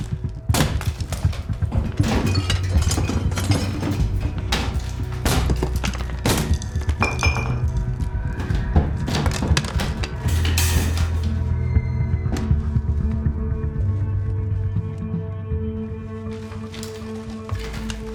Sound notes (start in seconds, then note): 0.5 plasterboard breaking; 4.0 very loud banging